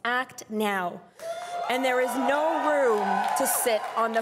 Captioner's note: crowd cheering and applauding